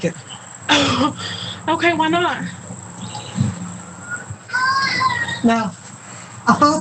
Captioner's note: cough